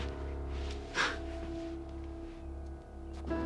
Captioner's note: scoffs